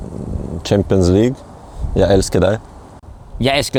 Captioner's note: speaks Norwegian